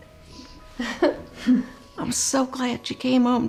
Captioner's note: chuckles